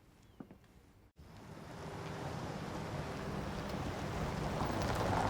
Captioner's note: vehicle approaching